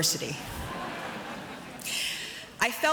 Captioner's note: audience chuckles